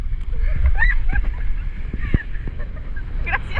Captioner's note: laughing